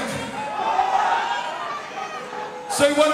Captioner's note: crowd